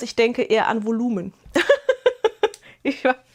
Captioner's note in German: gelächter